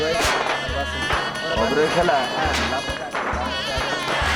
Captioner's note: chatter